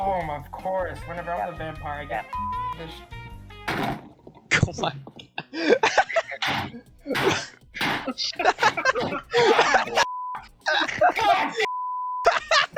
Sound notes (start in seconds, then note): 3.6 banging; 5.2 laughter